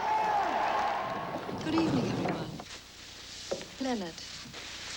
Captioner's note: british Accent